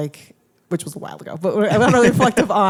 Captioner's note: laughs